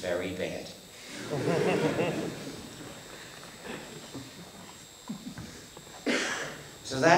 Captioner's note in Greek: Γέλια στο ακροατήριο